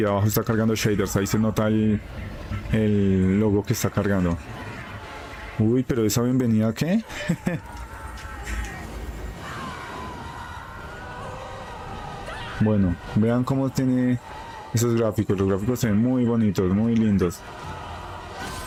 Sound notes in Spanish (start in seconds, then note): 9.8 grito